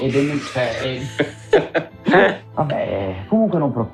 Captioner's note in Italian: Risate